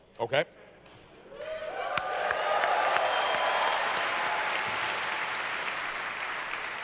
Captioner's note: audience cheers